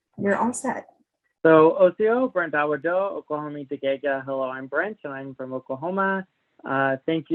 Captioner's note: speaking Cherokee